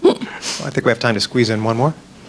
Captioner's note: voiceover